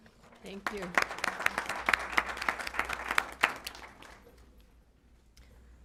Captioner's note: applause